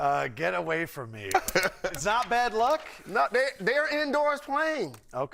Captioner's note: laughter